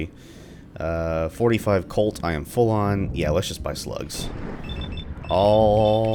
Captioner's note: thunder